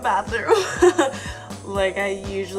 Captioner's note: laughing